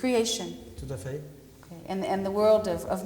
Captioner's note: speaking french